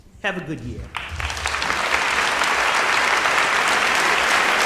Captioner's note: audience applauding